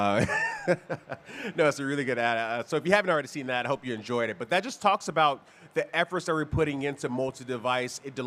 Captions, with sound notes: (laughing) No, it's a really good ad. So if you haven't already seen that, I hope you enjoyed it. But that just talks about the efforts that we're putting into multi-device,